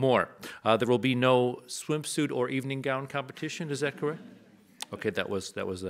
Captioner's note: audience laughs